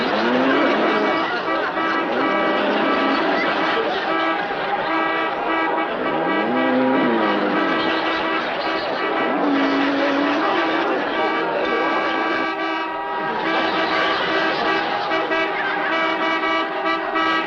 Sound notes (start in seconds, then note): 1.2 audience laughs; 1.2 horns honking; 7.1 buffalo bellowing; 7.1 horns honking; 13.4 horns honking